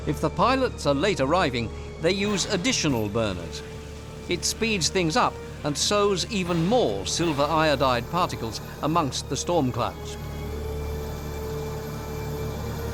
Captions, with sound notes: If the pilots are late arriving, they use additional burners. It speeds things up and sows even more silver iodide particles amongst the storm clouds. [burners thrusting]